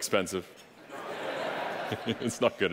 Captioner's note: audience laughing